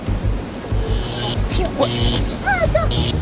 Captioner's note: lightning zaps